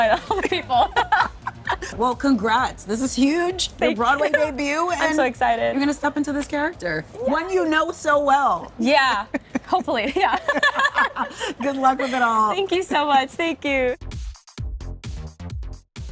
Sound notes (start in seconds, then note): 0.0 laughing; 9.0 laugh; 13.9 upbeat music